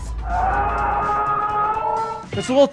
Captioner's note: man screaming